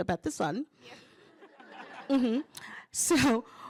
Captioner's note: laughter